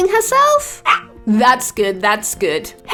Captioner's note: dog barking